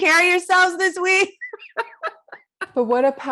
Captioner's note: laughs